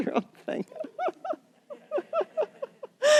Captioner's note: laughter